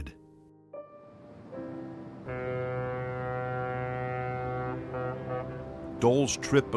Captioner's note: light instrumental music; ship horn blaring